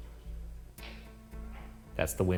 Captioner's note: eerie music; object clattering